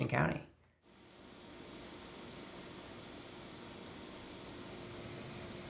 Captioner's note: machinery humming